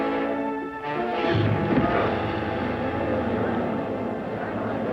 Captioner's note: spectators gasp, murmur